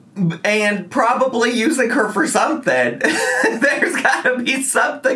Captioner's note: laughs